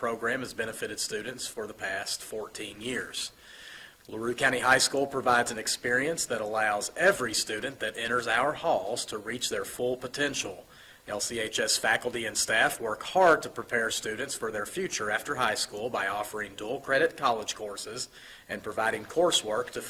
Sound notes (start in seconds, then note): none